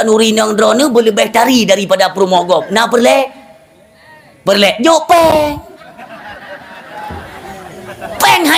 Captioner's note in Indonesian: tertawa